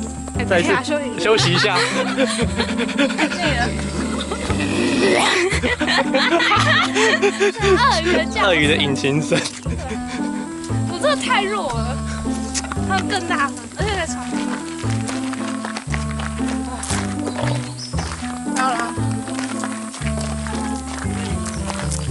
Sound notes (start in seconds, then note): 10.2 鱷魚的引擎聲